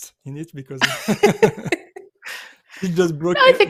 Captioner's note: laughter